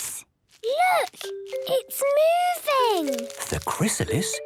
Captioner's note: whispering